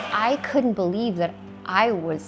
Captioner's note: crowd cheers